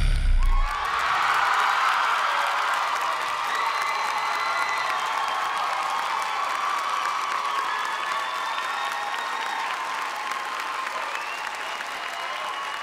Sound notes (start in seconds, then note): 1.2 cheers and applause